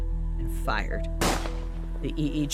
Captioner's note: gunshot